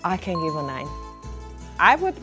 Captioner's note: ding